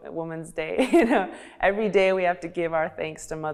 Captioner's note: chuckling